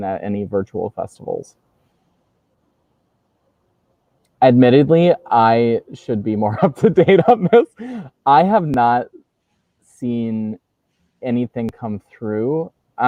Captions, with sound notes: "at any virtual festivals?" Admittedly, I should be more (laughs) up to date on this. I have not seen anything come through.